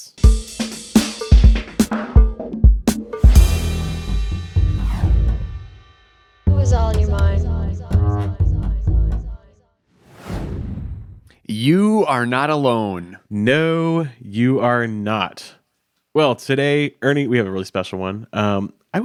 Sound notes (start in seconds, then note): 0.2 upbeat music; 10.0 graphic whooshes